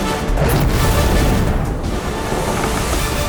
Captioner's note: fire burns